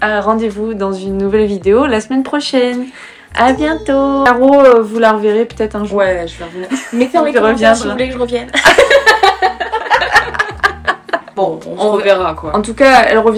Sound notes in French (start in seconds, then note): 11.8 rires